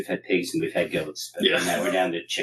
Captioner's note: laugh